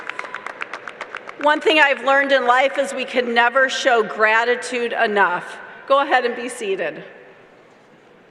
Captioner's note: applause